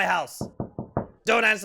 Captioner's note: door knocks